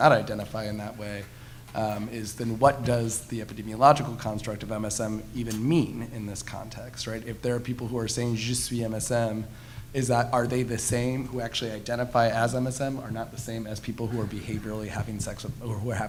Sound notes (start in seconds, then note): 8.7 speaking foreign language